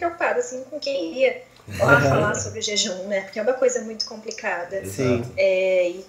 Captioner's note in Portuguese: risos